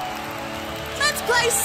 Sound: crowd cheering

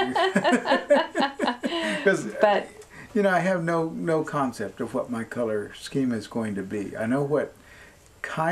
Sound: laughter

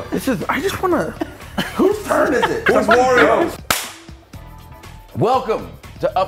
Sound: laugh

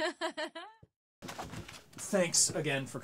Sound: Ronnie laughing

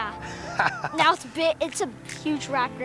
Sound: laughs

